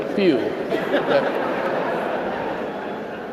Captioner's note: laughter